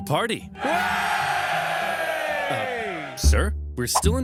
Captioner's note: Syracusans cheering